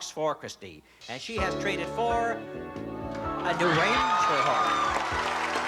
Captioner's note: cheering